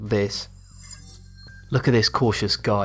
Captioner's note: futuristic ringing